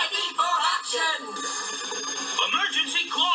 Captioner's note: alarm rings